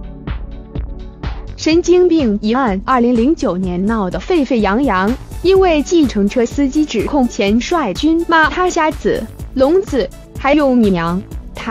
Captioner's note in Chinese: 台語